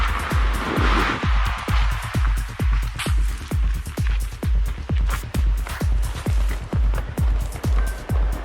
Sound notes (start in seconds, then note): 0.0 upbeat music continues; 0.8 car engine revving